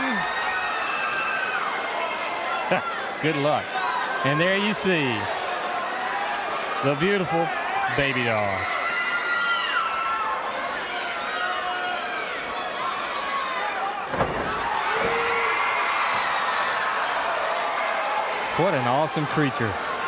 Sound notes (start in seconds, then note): 9.4 crowd cheering